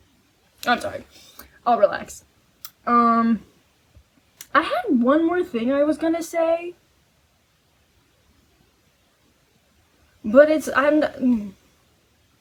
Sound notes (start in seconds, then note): none